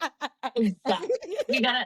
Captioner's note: laughing